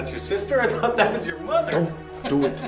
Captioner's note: laughing; neighbor laughing